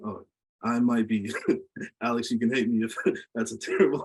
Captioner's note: laughs